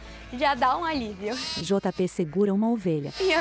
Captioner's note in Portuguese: Balidos